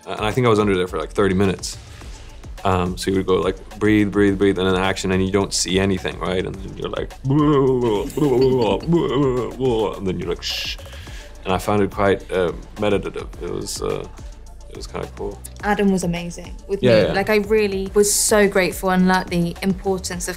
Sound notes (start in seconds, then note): 8.3 muttering; 10.8 simulating breathing